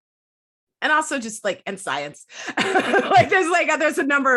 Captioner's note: laughs